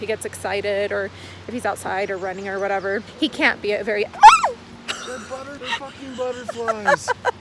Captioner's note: scream